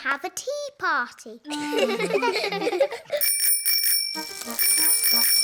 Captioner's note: snorts; bell ringing; all laugh